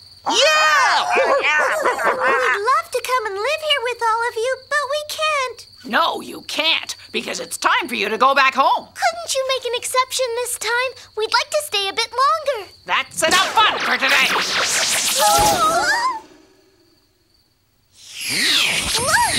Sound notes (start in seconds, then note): 0.3 cheering; 15.1 girls exclaiming